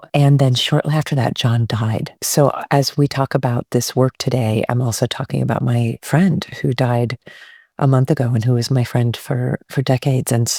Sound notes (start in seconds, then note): none